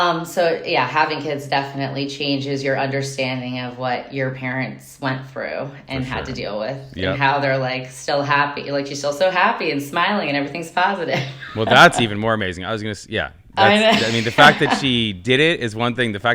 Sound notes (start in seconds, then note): 11.2 laughing; 13.6 chuckling